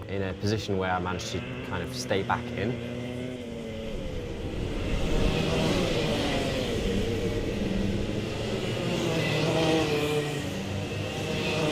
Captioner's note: karts zooming